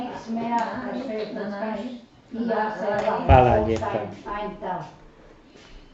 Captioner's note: speaking Croatian